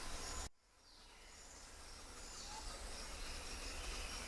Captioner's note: birds chirping